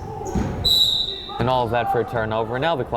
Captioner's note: whistle blowing